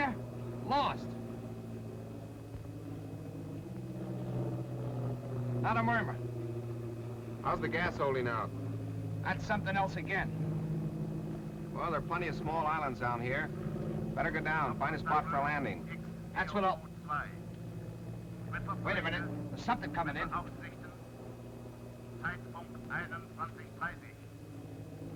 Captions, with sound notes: Lost! Not a murmur. How's the gas holding out? That's something else again. Well, there are plenty of small islands down here. Better go down and find a spot for landing. That's what I'll-- [radio transmission starting] Wait a minute. There's something coming in. [radio transmission in german]